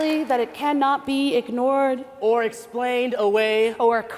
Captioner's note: applause